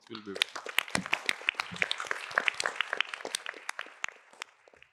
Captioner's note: applause